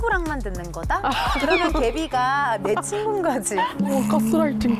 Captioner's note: brainwashing sound effect